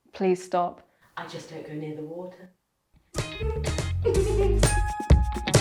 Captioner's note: giggles; upbeat music